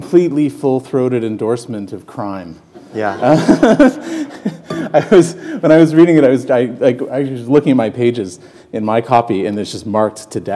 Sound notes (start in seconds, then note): 3.1 laughter